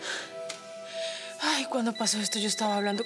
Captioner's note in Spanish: Suena el celular